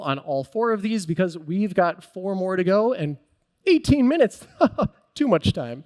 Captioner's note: chuckles